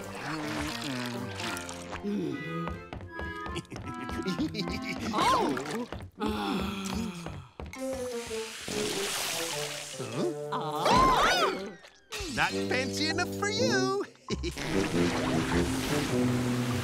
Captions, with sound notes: [humming] [groaning] [chuckles] Oh. [groaning] Huh? [shrieking] Not fancy enough for you. [chuckles]